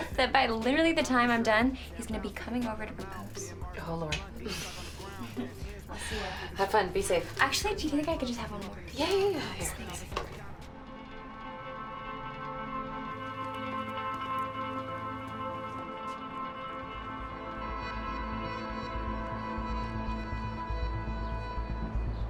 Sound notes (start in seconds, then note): 4.4 Kristen chuckles; 10.5 quietly tense guitar; 18.2 pulsing and tense electronic music